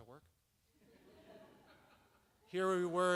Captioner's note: audience laughs